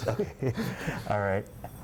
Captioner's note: laughs